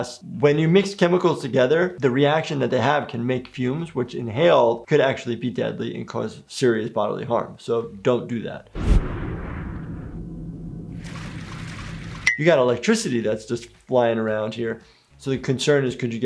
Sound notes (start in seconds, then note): 8.7 video whooshes; 11.2 water splashing